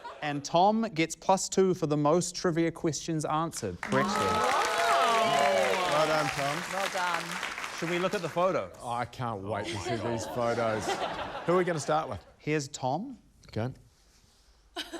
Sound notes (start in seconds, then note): 3.8 cheering, applause; 9.6 laughter; 14.7 laughter